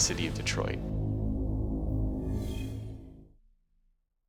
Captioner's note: pulsing sound